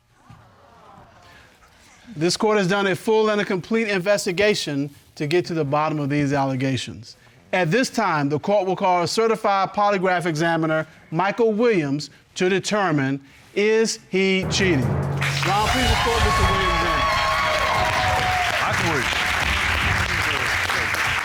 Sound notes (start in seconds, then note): 14.4 dramatic music playing; 17.2 applause